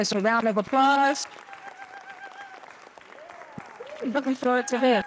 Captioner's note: cheering